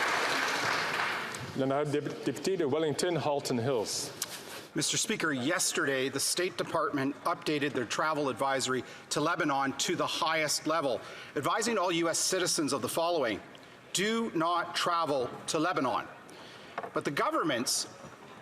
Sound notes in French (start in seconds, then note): 8.2 voix de l'interprète